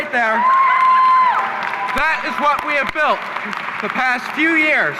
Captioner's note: audience applauding and cheering